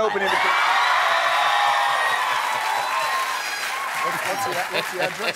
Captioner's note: applause